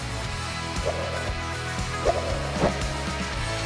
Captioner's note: swiping sound